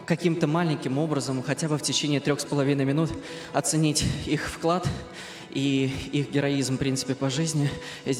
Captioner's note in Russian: откашливается